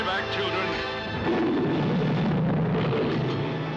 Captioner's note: roars mightily